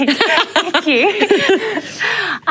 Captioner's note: laughter